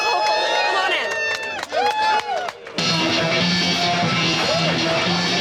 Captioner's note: cheering